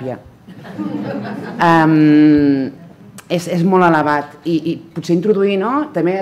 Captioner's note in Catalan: riure